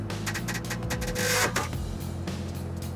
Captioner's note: clunk